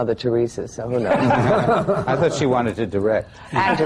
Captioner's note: laughter